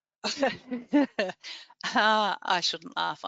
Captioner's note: laughs